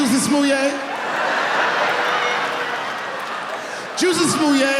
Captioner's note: laughing